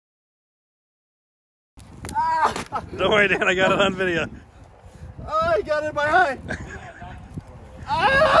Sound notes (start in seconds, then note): 2.1 screaming